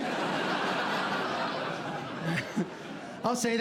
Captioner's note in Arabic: ضحك